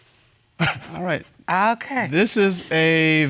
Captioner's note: chuckles